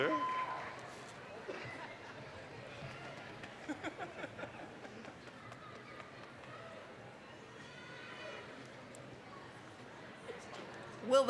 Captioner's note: general chatter